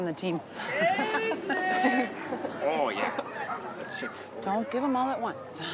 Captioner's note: laughs